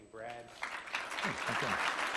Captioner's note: applause